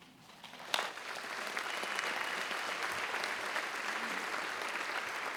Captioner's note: attendees applauding